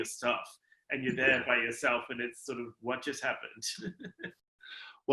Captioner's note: chuckles